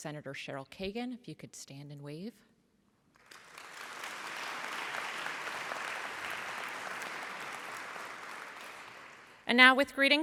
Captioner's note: applause